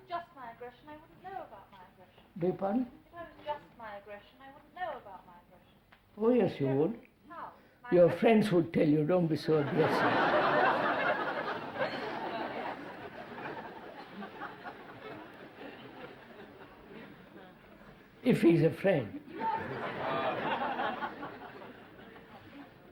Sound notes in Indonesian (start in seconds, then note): 9.6 Tertawa